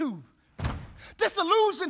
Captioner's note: feet stomp